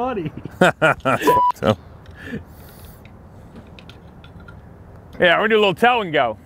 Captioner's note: chuckles